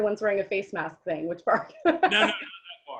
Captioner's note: laughs